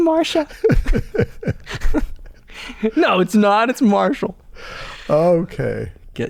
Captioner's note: laughter